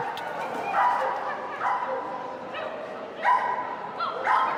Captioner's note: dog barking